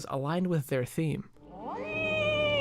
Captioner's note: CATWOMAN meows